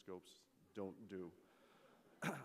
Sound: laughter

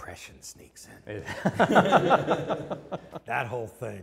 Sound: laughs

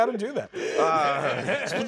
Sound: laughter

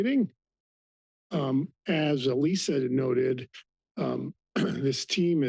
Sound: clears throat

